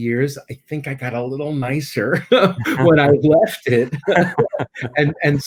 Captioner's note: laughing